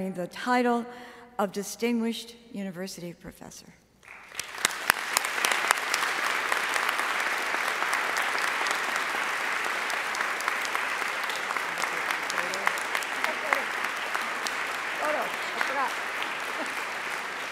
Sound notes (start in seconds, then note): 4.9 audience applauding